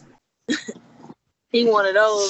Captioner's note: chuckling